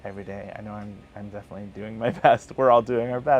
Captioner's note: laughs